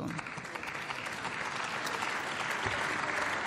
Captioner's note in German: Beifall